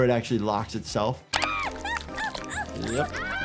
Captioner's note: Sniffles screaming